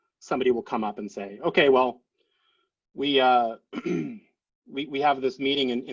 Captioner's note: clears throat